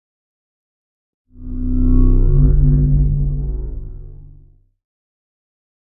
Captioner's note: spacecraft whirring